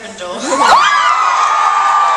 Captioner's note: audience cheering